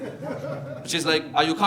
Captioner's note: audience laughing